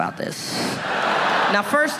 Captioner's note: audience laughing